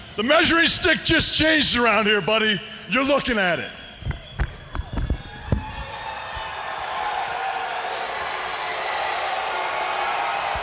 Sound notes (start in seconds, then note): 5.7 crowd cheering